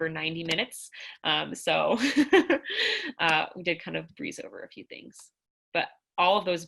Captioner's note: laughter